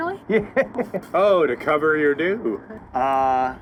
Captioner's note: laughs